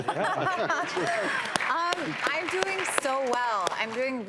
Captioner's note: laughing; audience claps